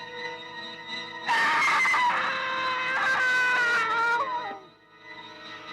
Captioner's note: suspenseful music; scream